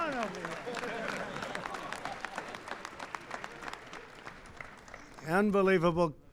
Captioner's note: laughter and applause